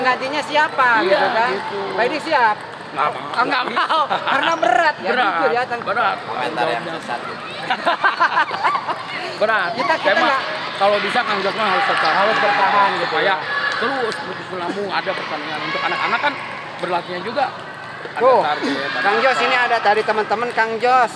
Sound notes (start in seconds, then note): 3.2 laughs